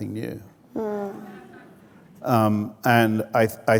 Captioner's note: audience laughing